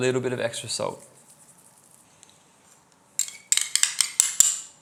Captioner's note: sizzling